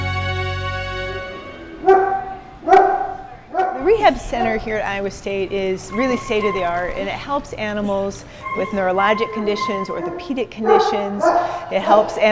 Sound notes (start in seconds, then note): 0.0 intro music; 1.8 dog barking